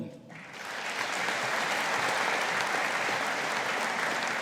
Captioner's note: audience applauding